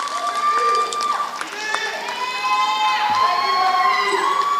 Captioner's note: applause